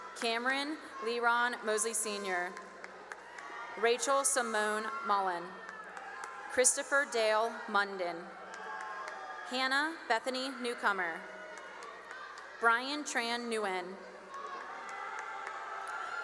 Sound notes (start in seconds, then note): 2.1 cheering and applause; 5.1 cheering and applause; 8.1 cheering and applause; 11.0 cheering and applause; 13.6 cheering and applause